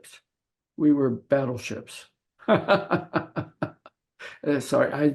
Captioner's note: laughing